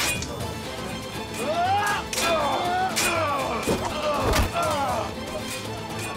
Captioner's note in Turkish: Kılıç sesleri